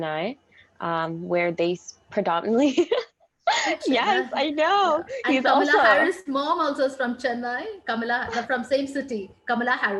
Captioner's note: giggles